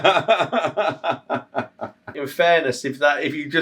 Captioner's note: laughs